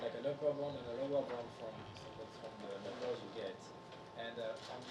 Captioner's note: speaking faintly